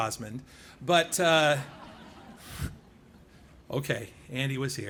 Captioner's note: laughing